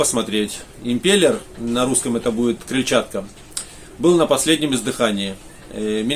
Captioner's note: in Russian - the impeller